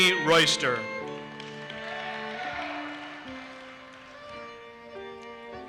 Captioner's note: audience cheers and applauses